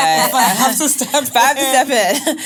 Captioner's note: laughing